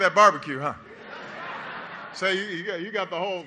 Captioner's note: laughter